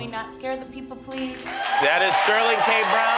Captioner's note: applause